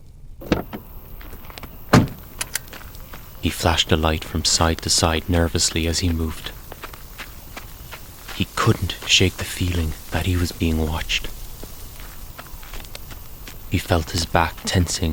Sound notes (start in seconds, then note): 2.1 sound of footsteps on gravel and leaves. Nighttime sounds in the background